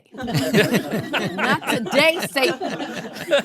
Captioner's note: audience laughing